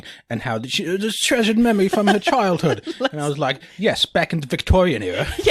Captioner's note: posh accent